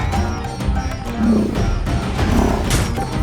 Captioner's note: elephants roaring